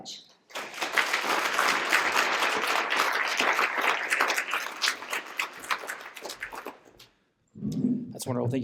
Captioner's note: applause